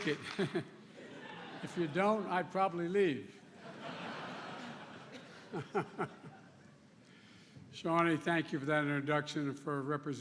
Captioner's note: applause